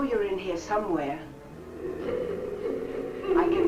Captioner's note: faint muffled chatter nearby